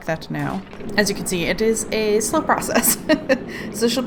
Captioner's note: laughs